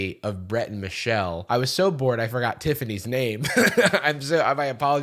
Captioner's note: laughs